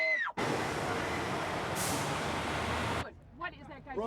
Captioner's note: engine rumbling